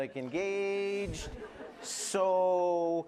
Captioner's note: laughter